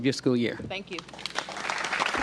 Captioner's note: applause